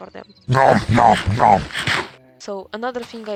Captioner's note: nom nom nom